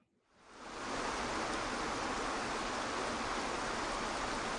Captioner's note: water rushing